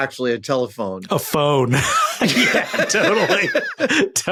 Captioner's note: both laugh heartily